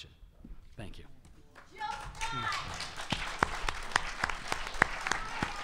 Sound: audience applause

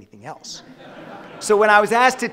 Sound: audience laughing

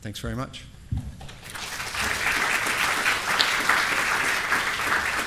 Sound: applause

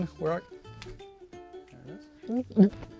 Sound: hand claps shut

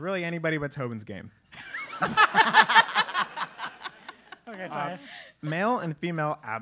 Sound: laugh

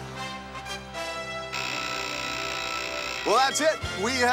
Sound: buzzer

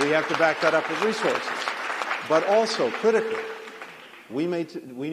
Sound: applause

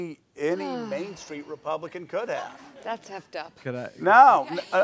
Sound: sighs

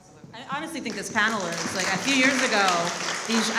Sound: audience applauds

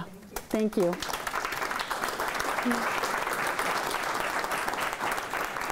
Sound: applause

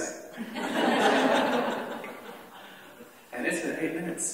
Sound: laughter

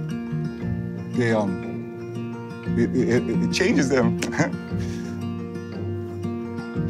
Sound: laughs

